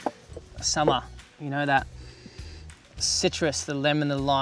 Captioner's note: sniffs